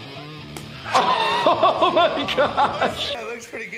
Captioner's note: laughing